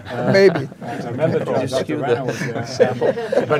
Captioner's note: men chattering